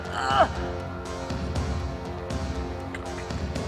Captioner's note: grunting